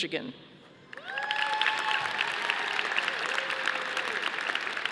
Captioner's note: audience applauding